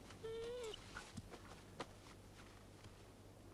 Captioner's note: Beast whines